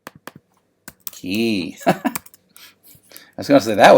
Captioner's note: laughs